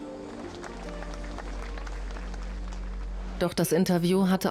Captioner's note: audience applauds